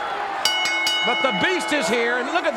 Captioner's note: bell dings